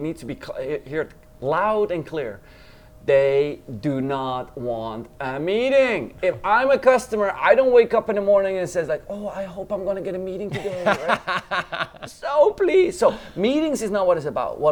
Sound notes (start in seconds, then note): 10.4 laughs